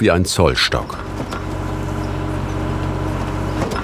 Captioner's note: engine roaring